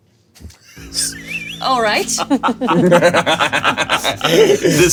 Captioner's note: players laughing